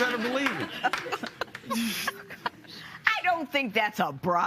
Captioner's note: laughter